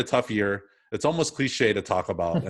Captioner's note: laughs